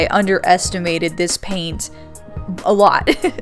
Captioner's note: laughs